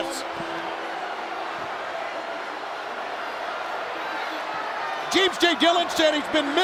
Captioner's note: crowd chatter